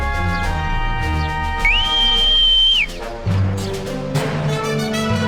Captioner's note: whistling; marching band music